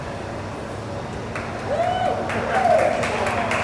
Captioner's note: applause; cheers